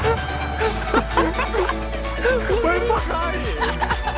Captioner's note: teammates laughing